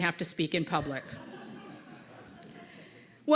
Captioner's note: laughter